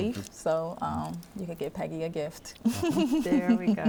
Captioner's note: chuckles